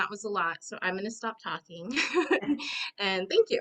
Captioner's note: laughs